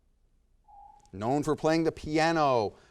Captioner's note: timer dings